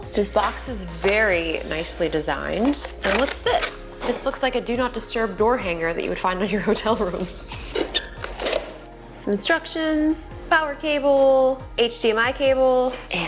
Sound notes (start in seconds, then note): 7.2 box opens